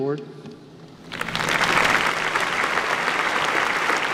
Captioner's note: applause